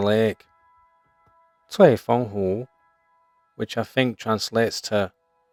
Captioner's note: speaking Chinese